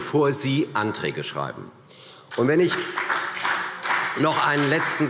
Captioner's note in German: Beifall CDU und BÜNDNIS 90/DIE GRÜNEN